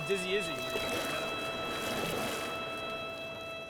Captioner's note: water splashes; calm music